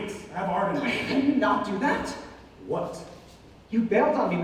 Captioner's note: scoffs